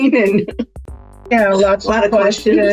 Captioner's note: chuckles